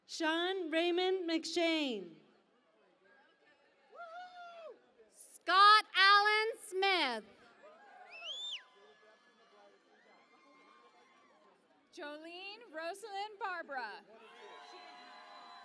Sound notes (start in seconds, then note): 8.7 cheering and Applause